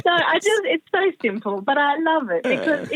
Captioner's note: laughter